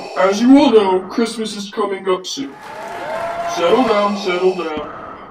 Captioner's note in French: Cheers